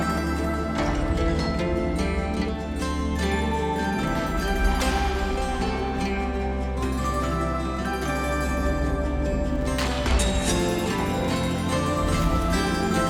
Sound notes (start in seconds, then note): 0.2 door clanks; 4.0 whip cracking; 9.4 gunshot